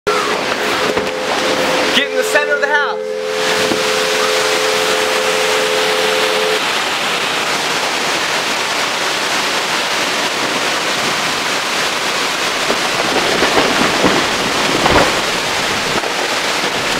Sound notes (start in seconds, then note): 3.3 long, steady emergency siren; 6.9 turbulent, heavy winds; 13.8 tree cracking & falling